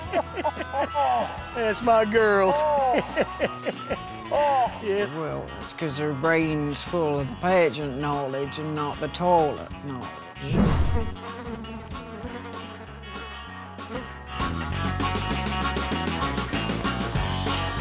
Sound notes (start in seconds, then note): 2.5 laughing; 10.4 flies buzzing